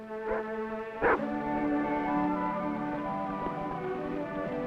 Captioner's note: Rebel barking; whimsical orchestral music